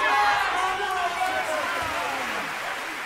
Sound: applause

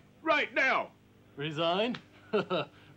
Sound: laughs

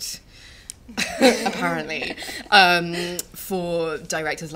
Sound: laughter

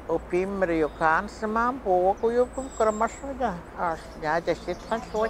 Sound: speaks in foreign language

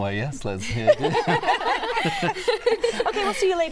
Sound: laughter

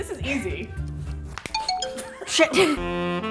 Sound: phone chimes

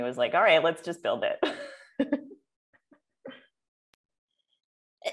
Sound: laughter

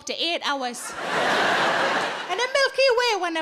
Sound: audience laughing

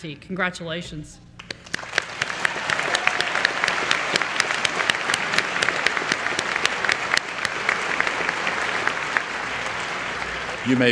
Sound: applause

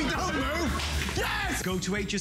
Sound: laughter

